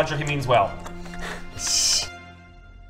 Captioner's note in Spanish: risas